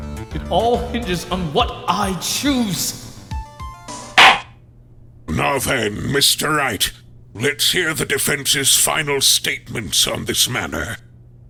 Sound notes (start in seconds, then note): 4.2 gavel slams!